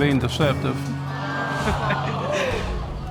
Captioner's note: audience exclaiming